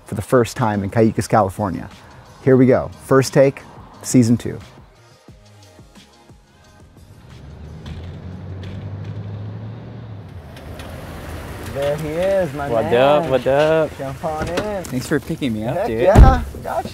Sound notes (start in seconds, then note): 5.2 upbeat music; 6.5 cars rumbling